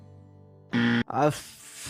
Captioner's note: extremely loud incorrect buzzer